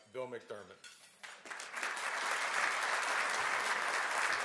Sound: applause

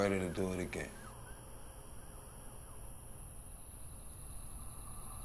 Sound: insects chirping

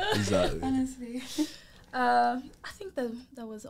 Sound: all laugh

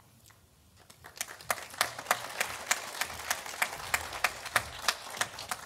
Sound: graduates clapping

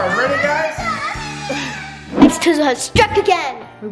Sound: crying

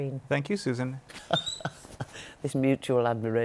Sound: laughs

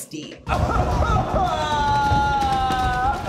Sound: crying

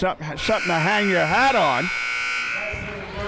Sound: buzzer sounding

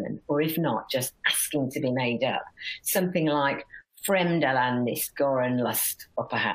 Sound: non-english speech

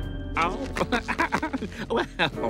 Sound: laughing

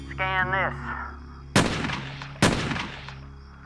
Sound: gunshots

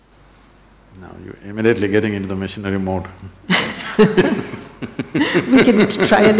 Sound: both laugh

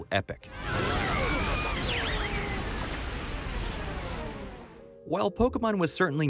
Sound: explosion

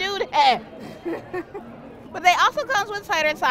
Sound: laughs

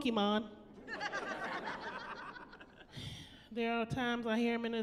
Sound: laughing

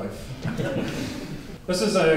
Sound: audience laughs

